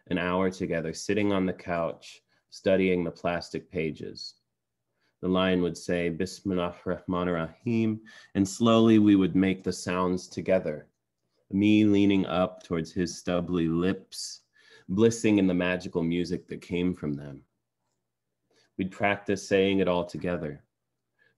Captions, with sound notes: an hour together sitting on the couch, studying the plastic pages. The line would say, [NON-ENGLISH SPEECH],, and slowly we would make the sounds together. Me leaning up towards his stubbly lips, blissing in the magical music that came from them. We'd practice saying it all together,